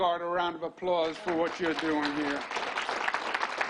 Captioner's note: applause